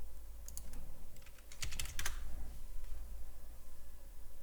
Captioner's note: typing